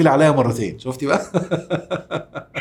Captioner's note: laughs!